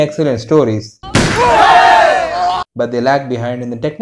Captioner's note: crowd starts cheering in anticipation